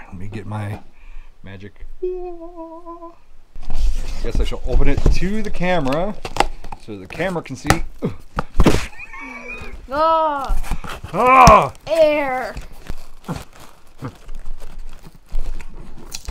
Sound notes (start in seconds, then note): 2.1 angelic singing; 8.6 cartoon punching sound; 9.2 gasps sarcastically; 9.9 yells